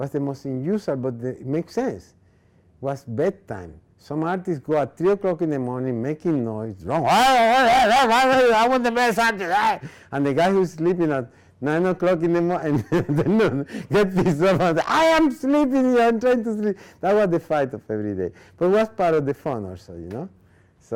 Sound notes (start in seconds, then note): 7.2 yelling; 12.7 laughing